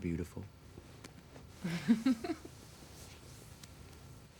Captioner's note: laughs